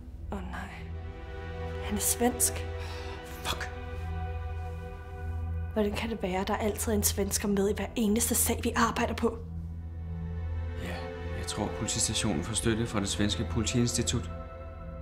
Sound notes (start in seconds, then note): 2.4 Tage groans